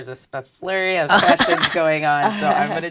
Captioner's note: laugh